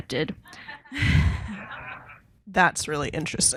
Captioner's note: participants and audience laughing